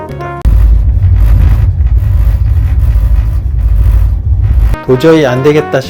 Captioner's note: annoying vibration noise from the sink